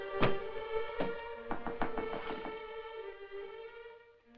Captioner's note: knock at door